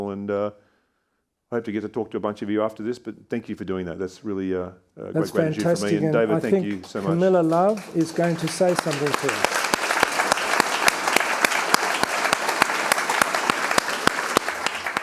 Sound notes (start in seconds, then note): 8.9 attendees applauding